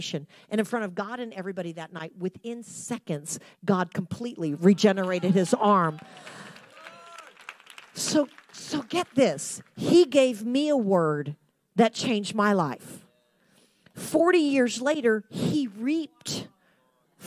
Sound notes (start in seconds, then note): 5.0 audience applauding